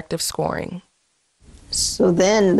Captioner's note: soundbite of archived recording